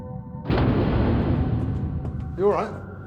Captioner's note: explodes